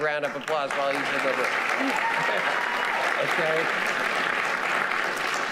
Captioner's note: audience applauding